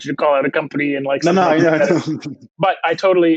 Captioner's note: chuckles